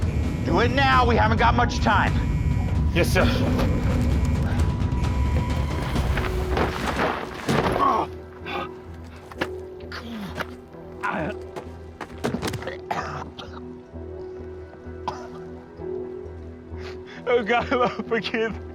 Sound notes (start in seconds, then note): 4.4 alarm; 7.7 grunt; 9.8 groans; 12.3 coughing/Gaging; 16.9 crying